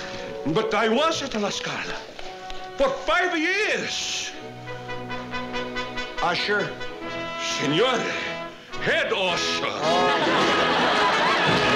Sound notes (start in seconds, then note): 7.2 italian